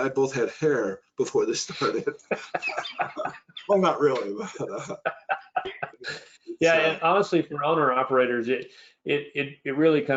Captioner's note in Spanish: risa